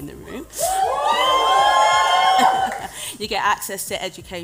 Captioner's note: cheers